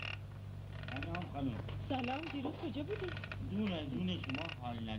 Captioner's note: non-english speech